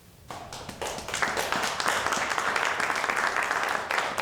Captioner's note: audience applauding